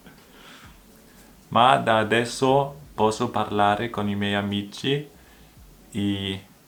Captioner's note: in Italian